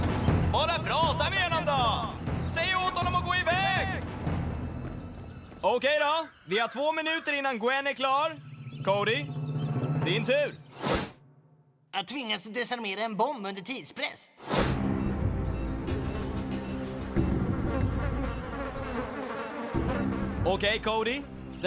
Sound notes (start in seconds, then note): 0.0 on walkie-talkie; 14.3 ticking; 17.6 flies buzzing